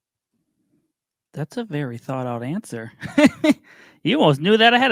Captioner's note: laughs